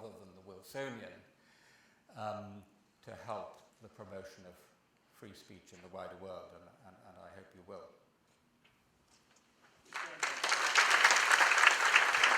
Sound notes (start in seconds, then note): 9.8 applause